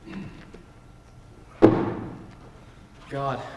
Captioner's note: cup slams on table